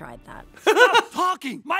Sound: laughs

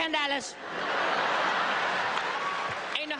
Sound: crowd laughing

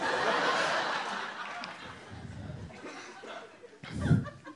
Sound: audience laughing

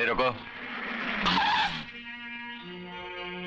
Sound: brakes squeal

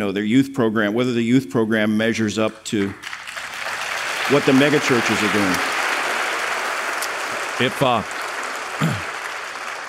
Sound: applause

